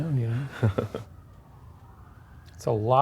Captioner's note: sirens wailing